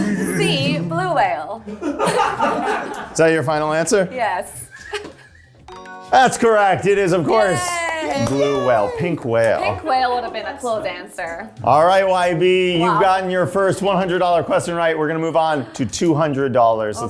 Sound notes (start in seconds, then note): 0.0 singing; 1.8 cast laughing; 5.7 bell dinging